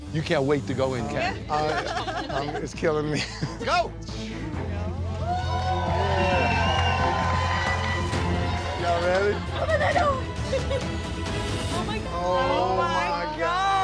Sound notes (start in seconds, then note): 3.2 crowd cheers